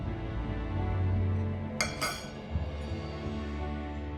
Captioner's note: none